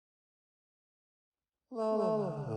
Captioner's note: humming